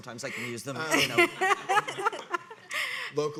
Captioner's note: audience laughing